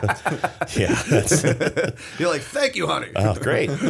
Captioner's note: laughter